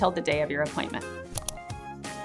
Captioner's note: mouse Click